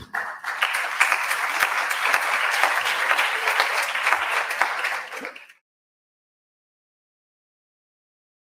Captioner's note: applause